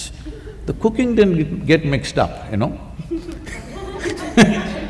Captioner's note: laughter